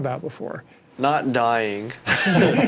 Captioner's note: laughs